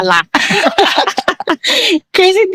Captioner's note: laughing